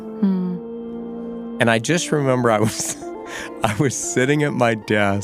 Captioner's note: laughs